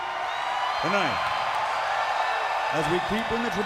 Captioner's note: crowd cheering